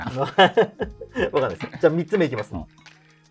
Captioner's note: laughing